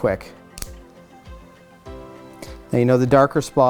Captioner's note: clippers click